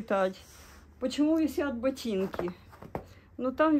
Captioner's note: Russian